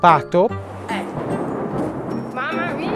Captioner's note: thunder striking